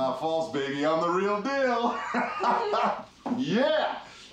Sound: laughs

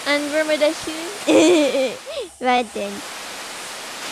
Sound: laughs

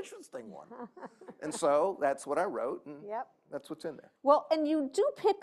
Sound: laughter

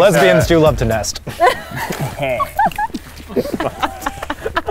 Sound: laughing

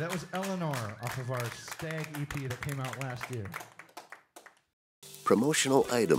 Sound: applause

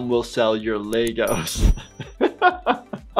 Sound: laughs

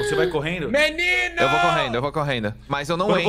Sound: screaming

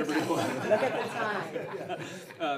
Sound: everyone laughing

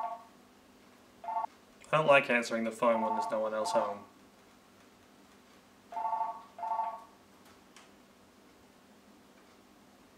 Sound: phone rings

